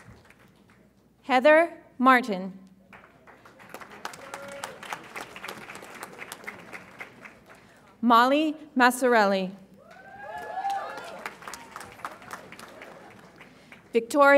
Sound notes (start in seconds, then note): 2.9 audience applauds; 9.8 audience applauds and cheers